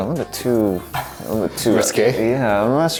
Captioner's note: laughs